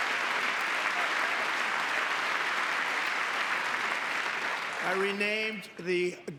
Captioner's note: applause